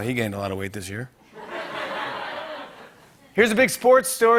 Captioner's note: laughter